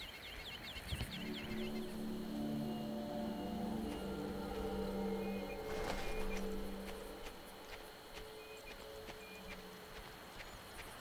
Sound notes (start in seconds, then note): 2.2 birds chirping; 8.7 tense music